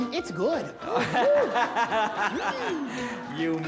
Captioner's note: laughs